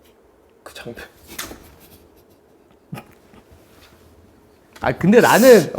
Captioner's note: crying